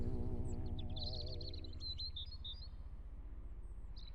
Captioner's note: birds chirping